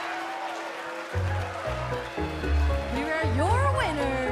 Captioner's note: bell ringing